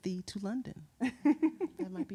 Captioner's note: laughing